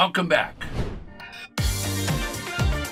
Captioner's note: air whooshing; upbeat music